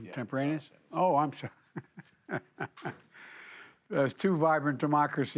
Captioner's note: laughs